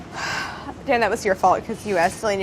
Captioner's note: sighs